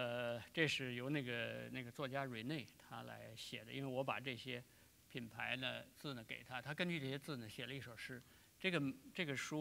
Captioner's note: speaking in Chinese